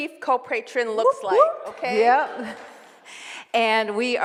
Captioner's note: whooping